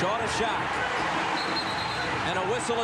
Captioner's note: whistle blows